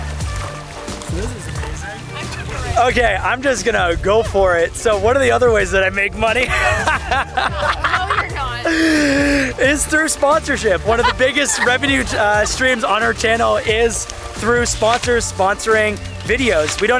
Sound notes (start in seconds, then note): 6.4 laughs